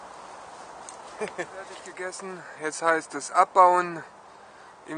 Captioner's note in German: lacht